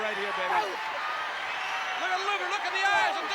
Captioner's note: applause